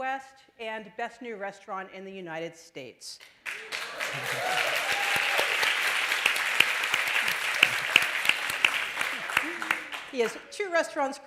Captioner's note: applause